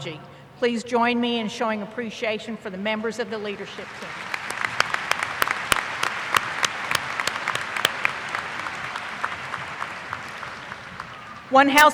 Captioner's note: applause